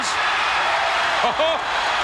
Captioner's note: audience cheers